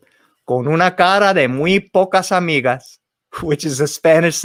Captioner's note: spoken in foreign language